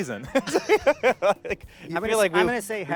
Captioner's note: laughing